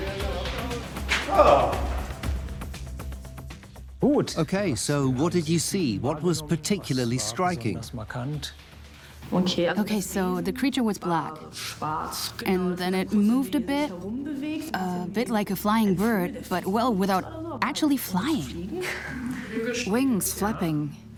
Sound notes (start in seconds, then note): 3.3 in German; 4.5 dubbed in English